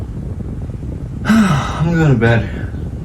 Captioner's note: sigh